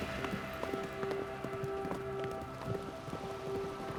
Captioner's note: horses galloping